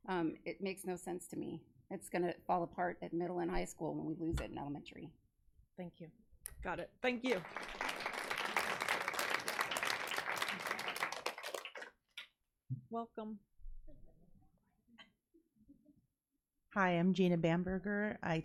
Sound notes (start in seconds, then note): 7.2 audience applauding